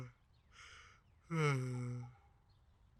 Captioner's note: yawning